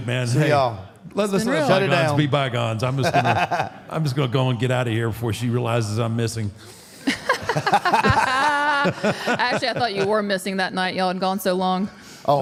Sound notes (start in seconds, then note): 2.9 AJ laughs; 7.0 all laughs